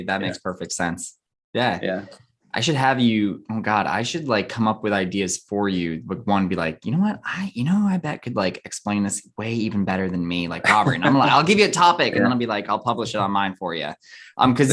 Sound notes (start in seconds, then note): 10.6 chuckles